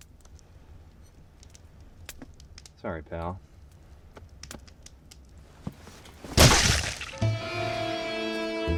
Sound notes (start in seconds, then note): 5.8 squelching